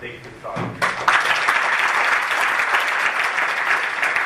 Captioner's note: applause